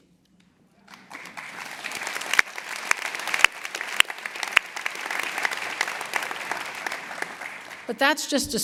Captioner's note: applause